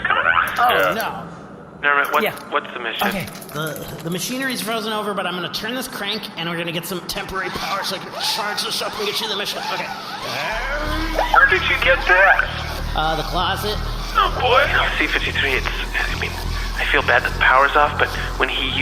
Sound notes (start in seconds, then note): 3.5 talking fast; 10.2 hand crank turning, grunting with exertion